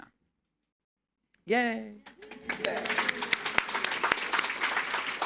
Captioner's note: audience clapping